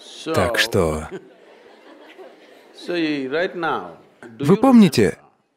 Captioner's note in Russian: смеётся